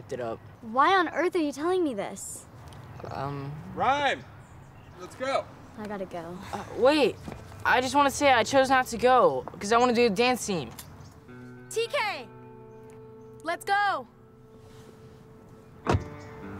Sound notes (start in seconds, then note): none